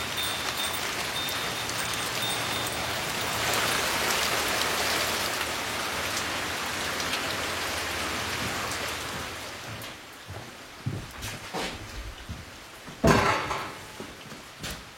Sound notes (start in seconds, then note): 3.2 increasing rain patter; 12.8 clanking